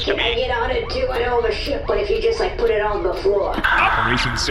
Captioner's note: Nermut sighs